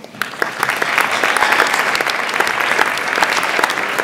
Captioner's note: audience applauds